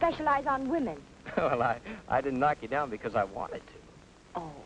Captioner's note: chuckles